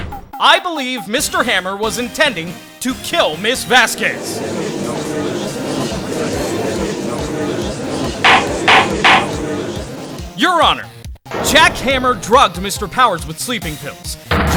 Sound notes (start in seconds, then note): 3.6 gallery chattering